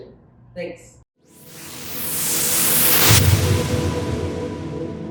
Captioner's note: whooshing